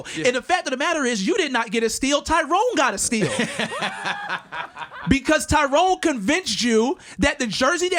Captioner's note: laughter